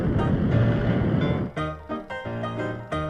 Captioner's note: upbeat music; rocket whooshing; upbeat music